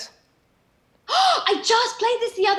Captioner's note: gasps